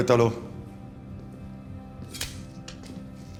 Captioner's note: speaking spanish